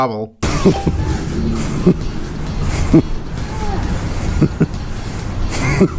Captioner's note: nervous chuckle